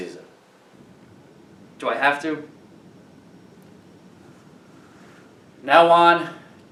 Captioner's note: sighs